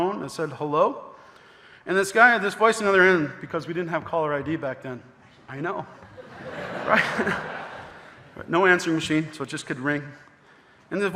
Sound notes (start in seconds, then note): 6.0 audience laughing; 6.1 laughing